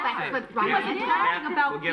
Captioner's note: everyone talking